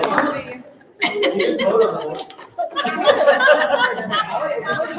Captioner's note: group laughing